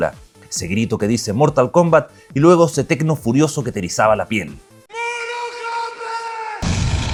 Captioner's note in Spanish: grito